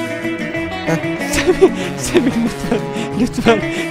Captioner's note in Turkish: Gülerek